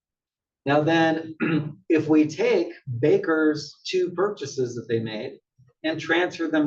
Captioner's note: cough